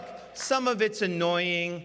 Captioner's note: applause